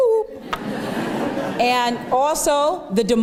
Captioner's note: laughter